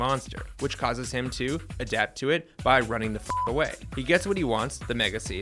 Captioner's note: beep